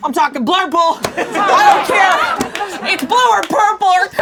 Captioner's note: laughing